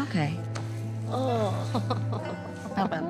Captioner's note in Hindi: हंसती है